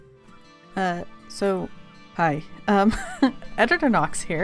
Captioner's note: laughs